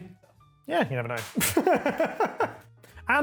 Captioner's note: laughs